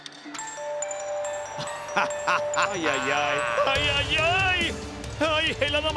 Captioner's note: laugh